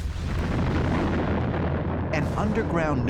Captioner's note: explosion